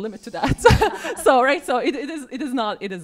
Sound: laughing

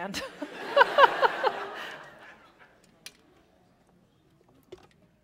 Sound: laughter

